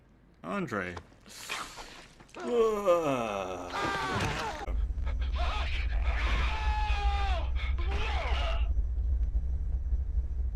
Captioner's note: screams in background